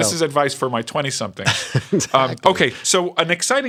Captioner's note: laughter